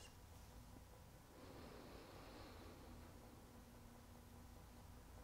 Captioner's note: deep breathing